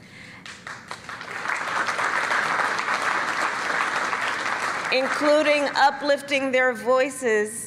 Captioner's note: applause